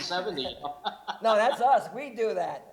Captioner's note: laughs